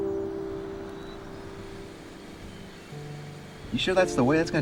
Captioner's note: car rumbling